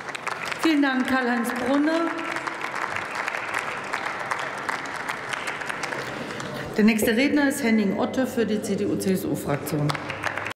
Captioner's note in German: Beifall bei der SPD und der CDU/CSU sowie bei Abgeordneten der FDP